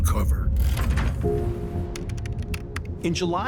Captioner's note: computer keyboard clacking